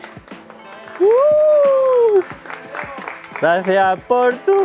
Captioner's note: whistles and applause